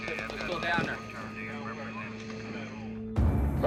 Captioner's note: radio chatter